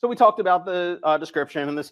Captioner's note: none